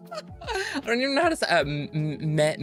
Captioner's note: laughs